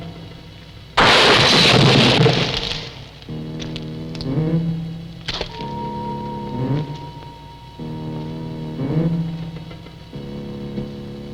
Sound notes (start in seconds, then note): 1.0 banging; 8.0 ominous music